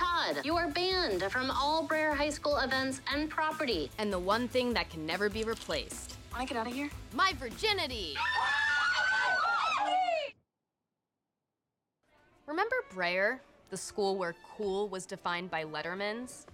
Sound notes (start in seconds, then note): 8.1 screaming, shouting